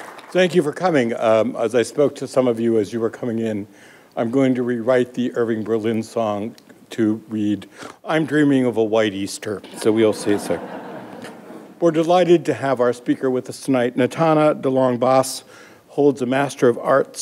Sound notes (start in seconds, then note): 9.7 laughter